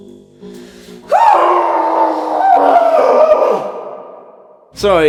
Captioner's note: continued off screen screaming